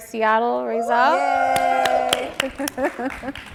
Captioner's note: audience cheering; and audience applauding